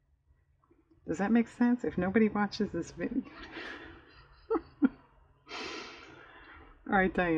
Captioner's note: laughs